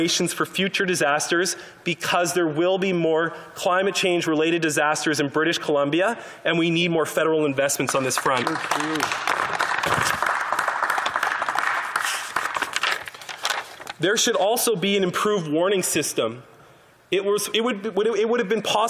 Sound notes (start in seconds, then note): 12.0 some Applause